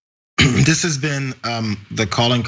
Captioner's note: cough